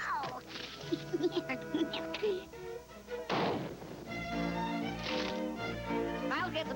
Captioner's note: explosion